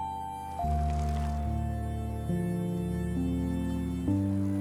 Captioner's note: bike rattling